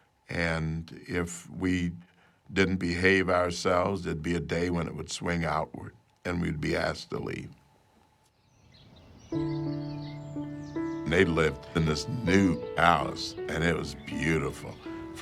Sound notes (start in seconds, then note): 9.1 birds chirping; 9.1 gentle music